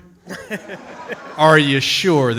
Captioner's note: audience laughs